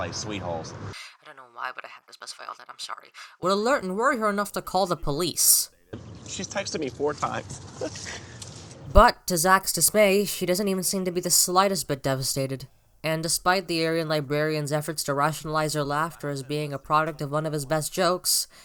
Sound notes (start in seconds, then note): 7.8 laughs